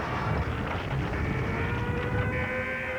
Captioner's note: alarm wailing